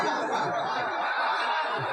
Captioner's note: laughter